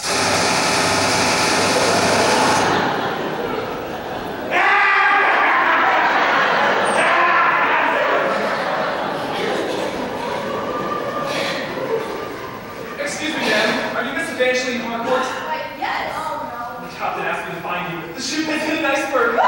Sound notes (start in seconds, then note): 0.0 machinegun fire; 5.4 laughs maniacally